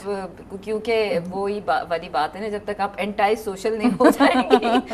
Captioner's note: chuckled